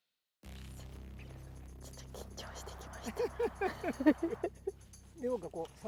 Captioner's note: laughs